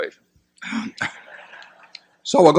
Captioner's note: laughter